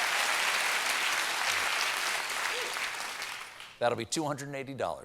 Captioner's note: applause